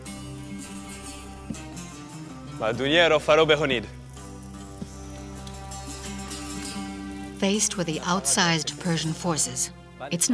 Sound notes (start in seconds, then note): 0.2 curious music; 2.7 Xerxes speaking in foreign language